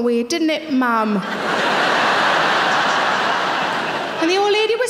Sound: audience laughing

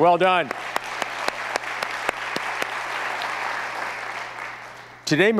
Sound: audience applauds

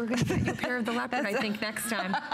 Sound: laughter

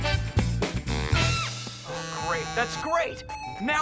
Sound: buzzing, chiming

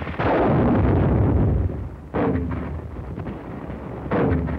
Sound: mortar fire

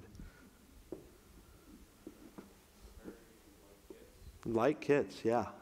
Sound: audience member talking in the background

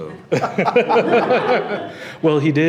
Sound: audience laughing

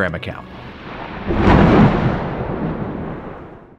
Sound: thunder claps

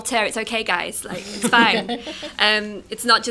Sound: laughter

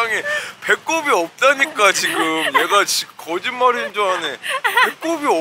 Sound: laughing

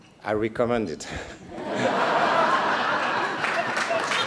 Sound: laughter and applause

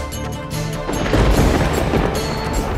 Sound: thundering

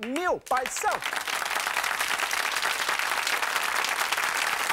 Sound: audience clapping

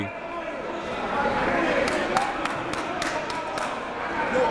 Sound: crowd talking

